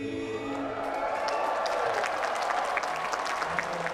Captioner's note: cheering